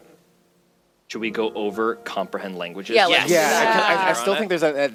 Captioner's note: overlapped agreement